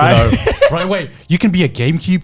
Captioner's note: laughs